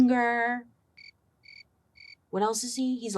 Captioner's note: crickets chirping